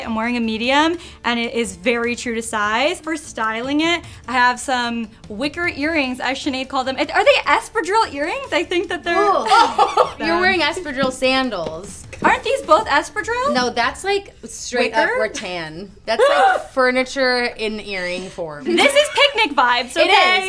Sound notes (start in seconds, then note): 9.2 laughs; 16.1 laughs; 18.7 laughs